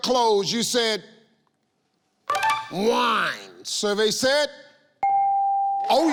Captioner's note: ding